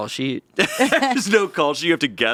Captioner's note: laughing